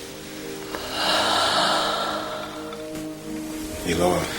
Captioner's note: labored breathing